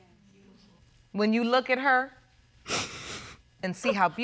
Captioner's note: sniffles